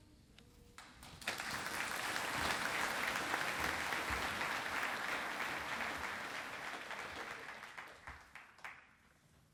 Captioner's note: applause